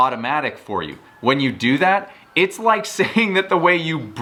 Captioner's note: chuckles